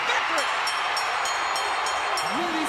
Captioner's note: bell ringing; crowd cheering